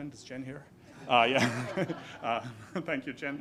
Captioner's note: audience laughs